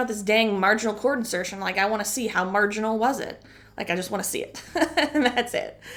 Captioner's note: chuckle